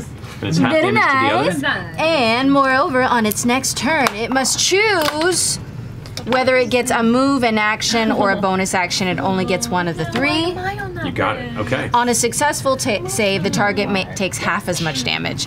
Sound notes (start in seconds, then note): 8.2 laughing